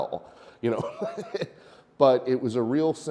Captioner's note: chuckles